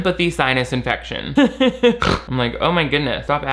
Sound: laughs; snorts

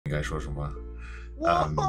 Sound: speaking Chinese

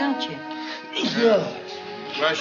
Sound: sneezes

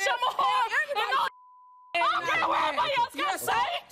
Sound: beeping

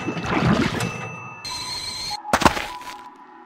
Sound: steaming anger

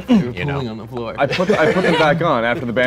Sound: laughing

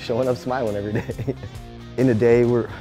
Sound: laughs

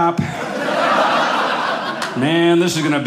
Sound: audience laughing

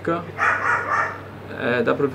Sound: bark bark bark

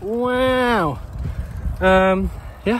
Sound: breathes out

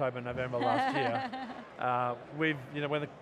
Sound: laughing

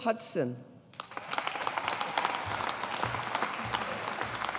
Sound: audience applauding

